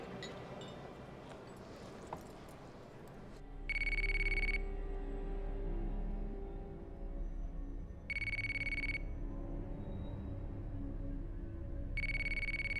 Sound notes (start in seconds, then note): 3.7 phone ringing; 4.5 brooding music